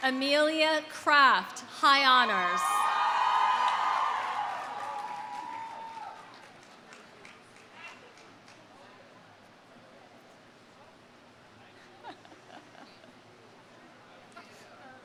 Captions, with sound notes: Amelia Craft, high honors. (audience cheering) (audience applauding)